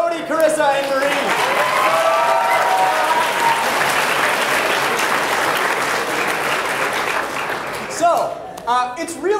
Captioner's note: applause